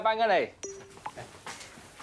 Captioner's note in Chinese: 訊息錄音提示聲